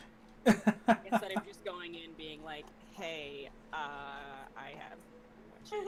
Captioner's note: laughs